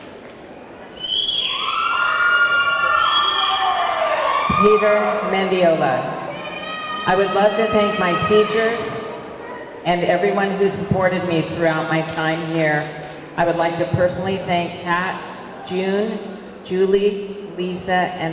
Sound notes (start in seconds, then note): 1.0 audience clamoring